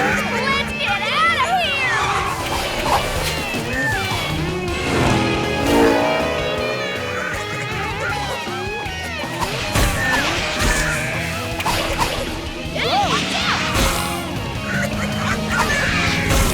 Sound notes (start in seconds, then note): 7.0 squeaking; 14.3 squeaking